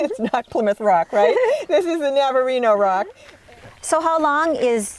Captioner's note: laughs